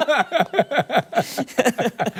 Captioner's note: laughter